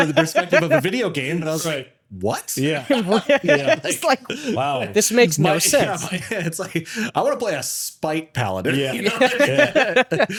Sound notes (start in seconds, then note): 2.7 laughter